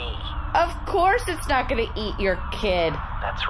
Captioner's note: exasperated